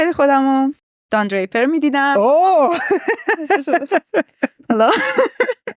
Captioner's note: laughs